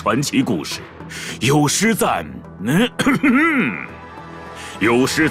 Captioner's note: cough